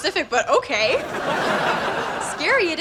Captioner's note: laughs